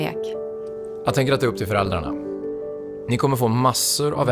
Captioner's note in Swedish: Mansröst